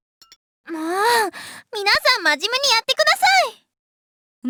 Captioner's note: sigh